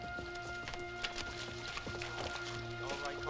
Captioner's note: water splashing